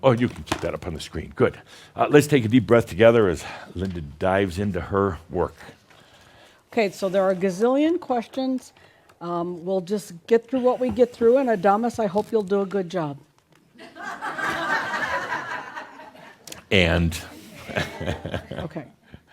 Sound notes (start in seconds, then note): 17.5 laughter as he makes a face; 17.6 chuckles